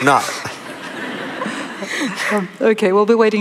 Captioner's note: laughter